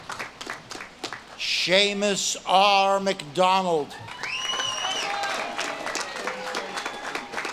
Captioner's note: audience claps and cheers